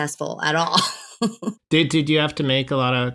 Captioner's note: laughter